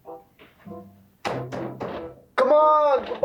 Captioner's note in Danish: banker på døren